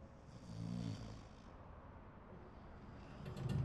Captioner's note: snoring